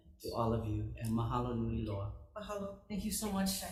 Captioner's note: speaking Hawaiian